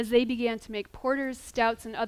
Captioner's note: none